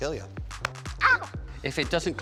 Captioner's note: screams